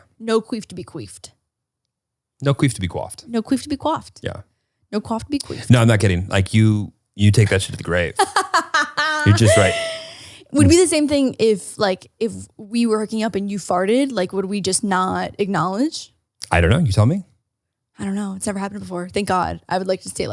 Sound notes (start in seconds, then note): 8.2 laughs